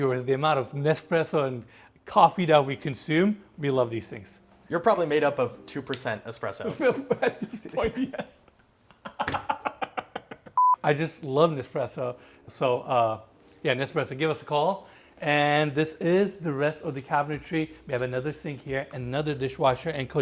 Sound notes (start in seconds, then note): 8.8 laughs